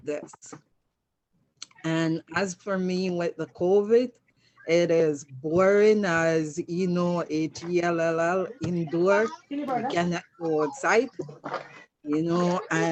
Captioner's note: participant's microphone unmutes, can hear television in the background